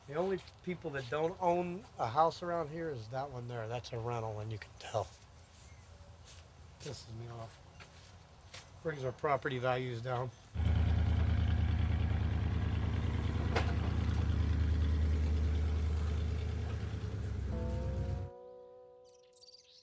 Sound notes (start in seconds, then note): 10.5 engine rumbling; 17.8 bluesy music; 19.0 birds chirping